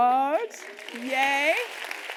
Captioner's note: applause